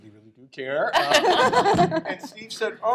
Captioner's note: laughter